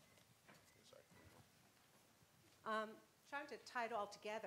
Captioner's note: high Pitched Voice Woman In The Crowd